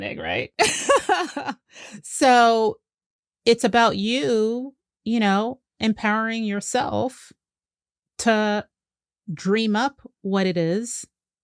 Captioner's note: laughs